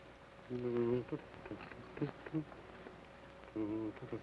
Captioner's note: hums melodically